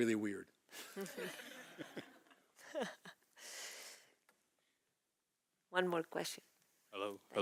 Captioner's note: laugh